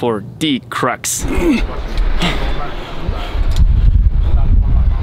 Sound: grunting

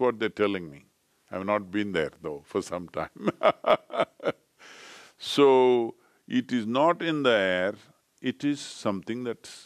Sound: laughs

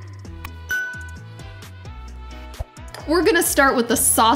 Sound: drums hands; bell rings

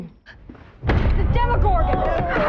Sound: dramatic thud; boys clamor

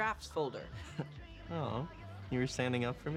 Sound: chuckles

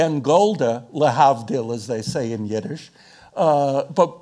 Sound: speaking in foreign language

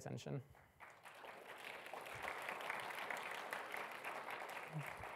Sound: audience applauding

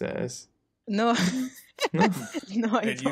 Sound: laughs

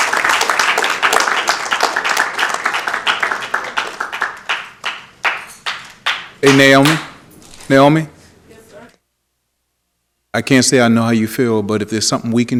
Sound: applause

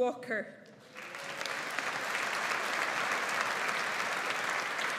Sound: audience applauds

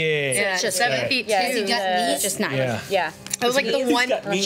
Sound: group discussing amongst each other

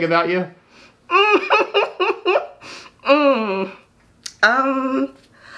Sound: interviewee laughing

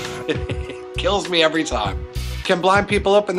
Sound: laughs

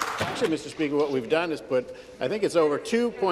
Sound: some Applause

